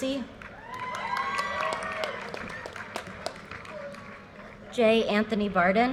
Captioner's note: audience cheers and applause